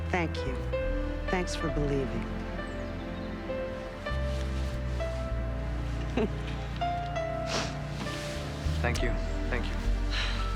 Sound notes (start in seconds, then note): 6.0 Nora chuckles